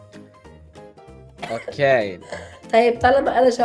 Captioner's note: coughs again